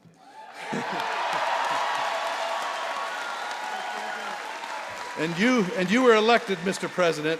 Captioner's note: applause